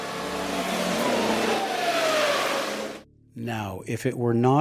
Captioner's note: car engine rolling